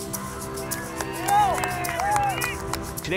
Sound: clapping and cheering

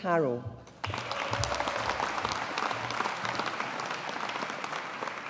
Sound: audience applauding

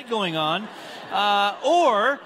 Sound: congregants laughing

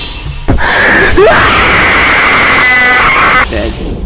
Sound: screaming

